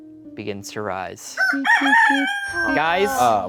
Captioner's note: rooster crowing